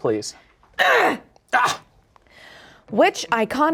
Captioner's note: grunts